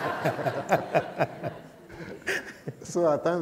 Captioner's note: laughter